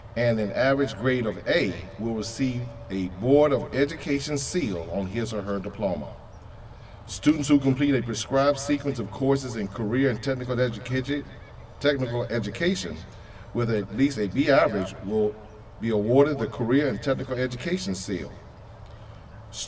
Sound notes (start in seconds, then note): none